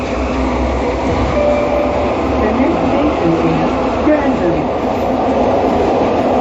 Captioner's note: next Station Chime